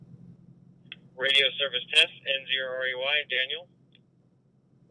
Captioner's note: over Radio